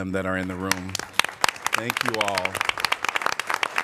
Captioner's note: applause